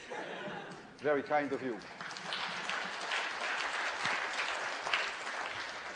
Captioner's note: laughter; applause